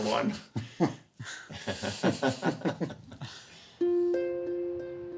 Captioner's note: laughing